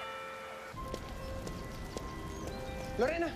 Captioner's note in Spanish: Campanadas